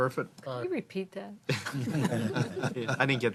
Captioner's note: laughter